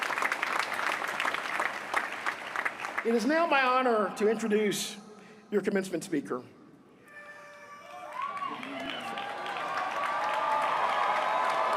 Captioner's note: applause